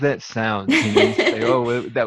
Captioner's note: laughs